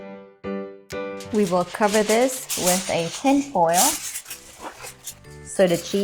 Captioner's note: balling up tin foil